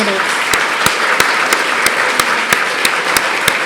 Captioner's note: applause